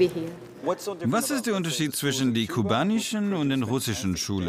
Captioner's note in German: englisch